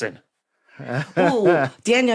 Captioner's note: chuckles